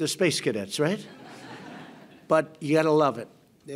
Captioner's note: laughter